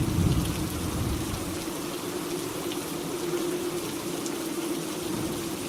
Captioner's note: rain